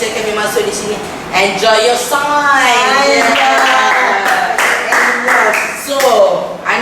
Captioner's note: claps